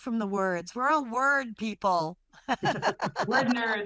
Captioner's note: laughter